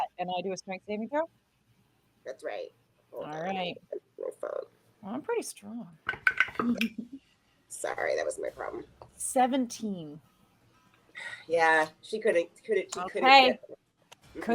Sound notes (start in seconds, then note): 11.5 sighs